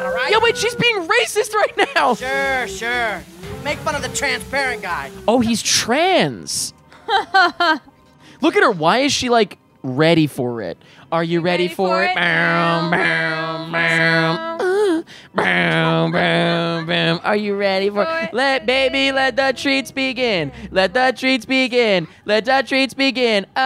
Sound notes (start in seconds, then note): 6.9 laughing; 14.2 making music sounds